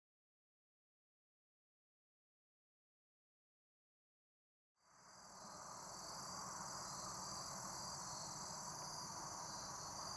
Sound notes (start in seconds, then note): 4.8 crickets chirping